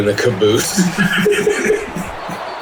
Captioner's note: laugh; crowd Noises